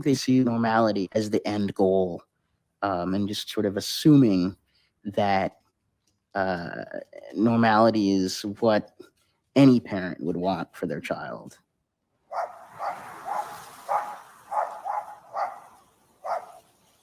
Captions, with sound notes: - You know, I think they see normality as the end goal, and just sort of assuming that normality is what any parent would want for their child. (Dog barking)